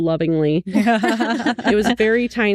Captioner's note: laughing